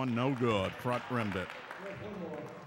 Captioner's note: clapping